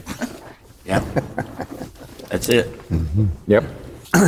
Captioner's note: laughing